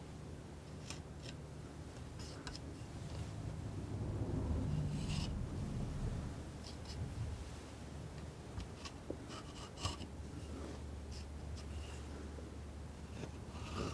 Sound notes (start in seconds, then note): 1.2 scratching